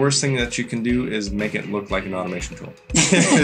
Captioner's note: laughs